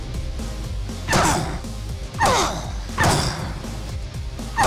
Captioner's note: grunting